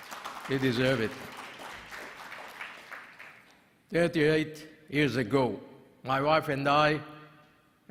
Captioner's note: applause